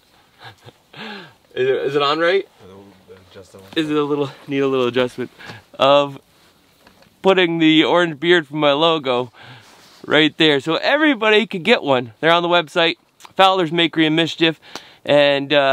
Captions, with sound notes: (laughs) Is it on right? - Let me adjust it a little. - Is it a little, need a little adjustment. Of putting the orange beard from my logo right there so everybody could get one there on the website, Fowler's Makery and Mischief.com